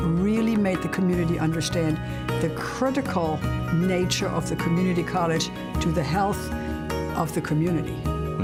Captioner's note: none